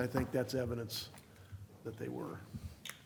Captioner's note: speaking away from mic